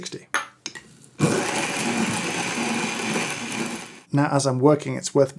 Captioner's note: beans grinding